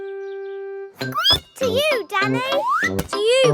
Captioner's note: squeaks